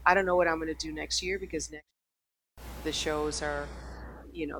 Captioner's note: mic cuts out